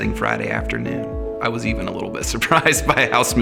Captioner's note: chuckling